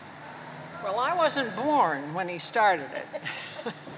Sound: chuckles

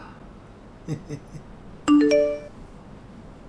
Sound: incoming SMS

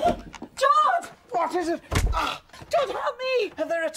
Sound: bangs head

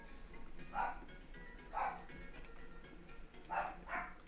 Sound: dog barking

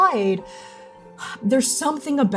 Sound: sighing

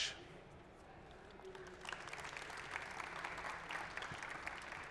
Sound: applause

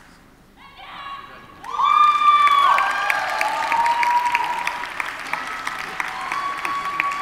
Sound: audience cheers and applauds

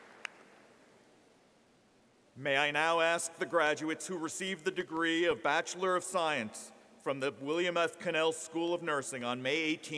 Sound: applause

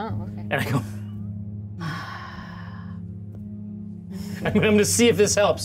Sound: Certainty sighs; laughs

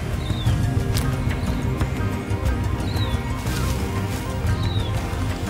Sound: footsteps approaching

